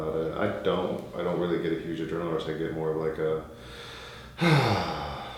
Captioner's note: deep sigh